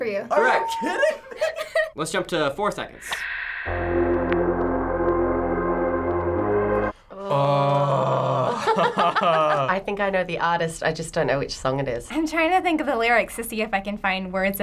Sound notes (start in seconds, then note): 0.9 giggling; 2.6 synthesizer playing; 3.1 static; 8.4 laughter